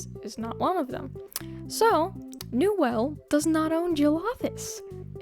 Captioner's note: clicks tongue